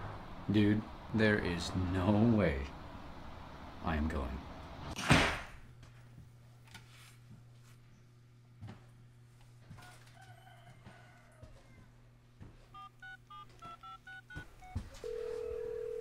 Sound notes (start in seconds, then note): 9.7 rooster crowing; 12.7 dialing